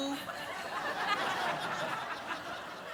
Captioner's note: audience laughs